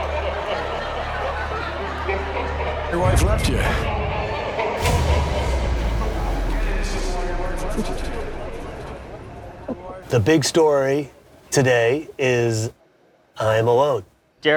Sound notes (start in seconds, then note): 0.1 distorted laughing; 7.3 cackling whispers